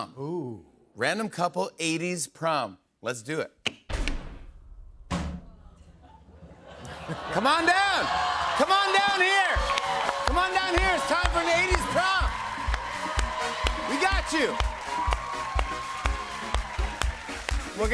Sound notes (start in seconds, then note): 12.3 cheers and applause